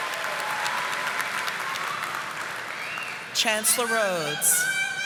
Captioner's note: audience applauding